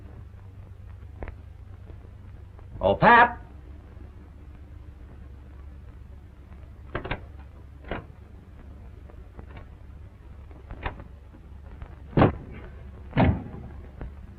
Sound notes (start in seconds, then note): 6.9 doorknob rattling; 13.0 thuds; 13.1 bangs